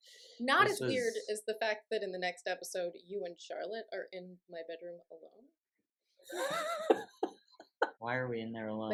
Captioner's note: laughter